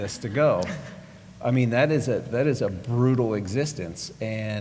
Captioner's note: laugh